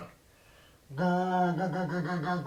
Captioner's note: goose call